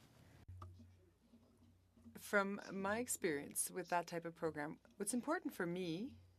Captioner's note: speaking French